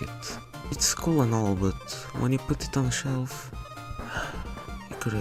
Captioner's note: sigh